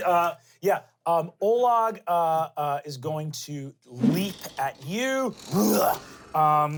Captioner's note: grunts